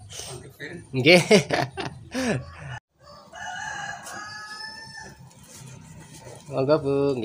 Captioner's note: laugh